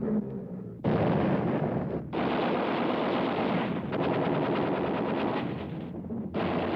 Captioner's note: explosions; gunfire